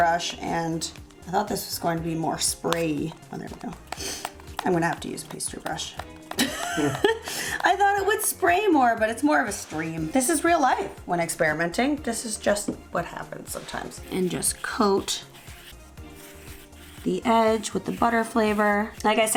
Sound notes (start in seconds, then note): 6.3 both laugh